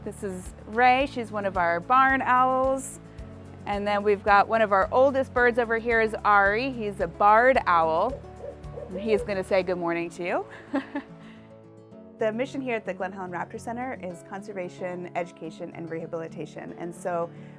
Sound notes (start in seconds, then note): 8.1 barred owl hoots; 10.6 chuckles